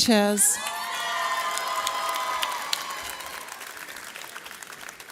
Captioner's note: audience cheers